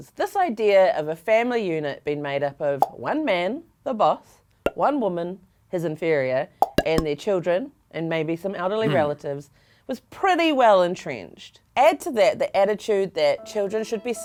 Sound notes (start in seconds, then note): 2.8 popping; 6.6 popping; 8.8 grunting